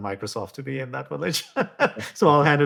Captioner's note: laughs